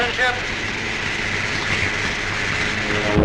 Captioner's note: hissing